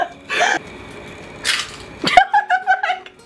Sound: egg shell cracks; laughs

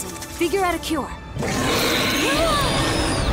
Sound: roaring; wincing

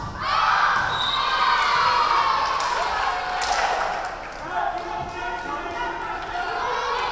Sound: crowd cheering; referee whistling

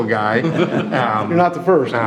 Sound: audience laughing

